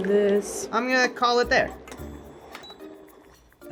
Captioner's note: beep